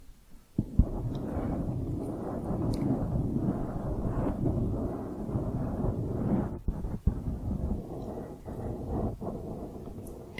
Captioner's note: dense mic scratching